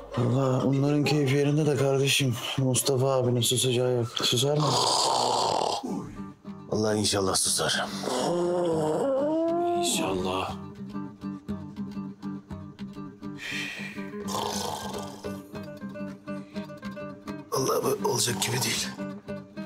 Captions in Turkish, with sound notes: Vallahi onların keyfi yerinde de kardeşim Mustafa ağabeyin susacağı yok susar mı? (Gürültülü horlama sesi) Vallahi inşaallah susar. İnşaallah! Üff! Vallahi böyle olacak gibi değil.